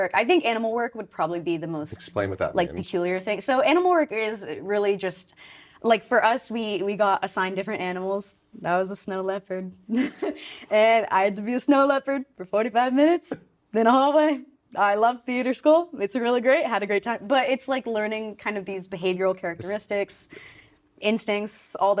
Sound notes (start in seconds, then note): 10.0 chuckling